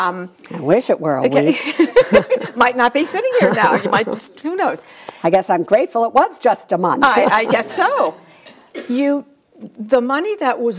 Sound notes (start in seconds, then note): 3.3 everyone laughs; 7.0 Suze and audience laugh